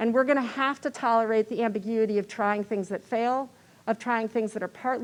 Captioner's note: none